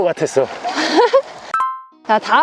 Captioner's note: laughter